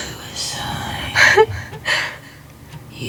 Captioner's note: sobbing